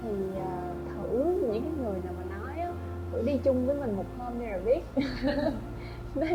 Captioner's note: laugh